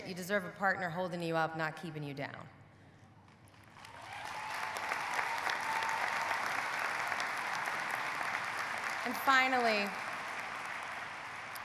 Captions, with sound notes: you deserve a partner holding you up, not keeping you down. (audience cheering) (audience applauding) And finally,